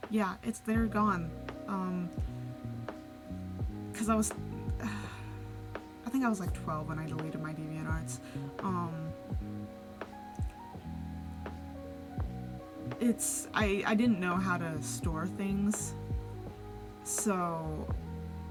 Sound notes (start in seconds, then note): 4.9 sigh